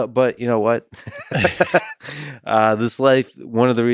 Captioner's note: Lex laughs; Tim laughs